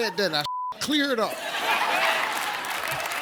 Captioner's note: audience laughs; audience claps